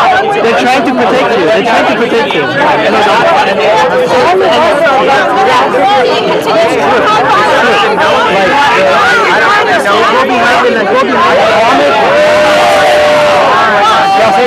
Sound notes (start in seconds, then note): 3.2 shouting